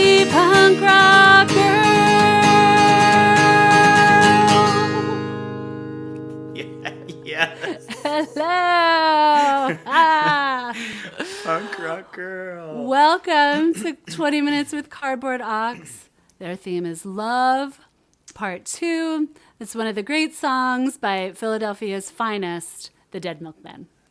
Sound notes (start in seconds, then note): 6.5 laughter